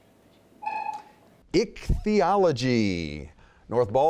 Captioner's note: dinging